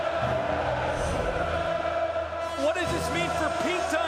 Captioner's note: crowd cheering